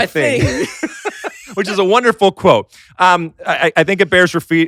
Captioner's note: laughs